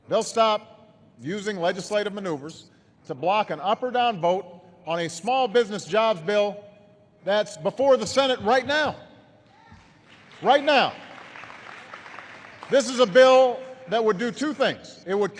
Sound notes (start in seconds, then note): 9.6 applause